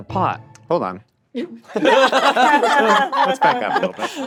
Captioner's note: all laughing